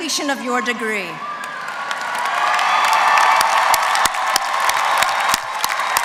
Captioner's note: applause